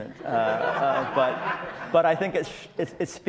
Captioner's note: audience laughs